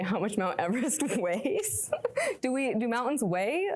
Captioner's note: laughing